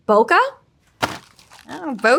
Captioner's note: packaging thudding